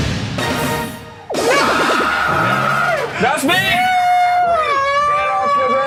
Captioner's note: screams